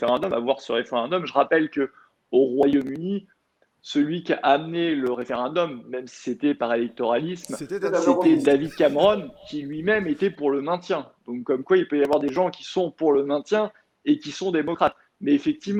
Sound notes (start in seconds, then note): 7.4 laughter